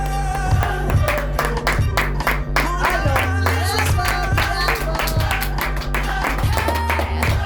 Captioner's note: audience claps